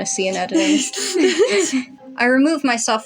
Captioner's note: chuckle; snicker